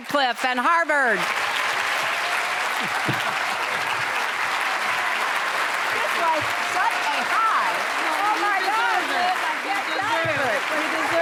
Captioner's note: applause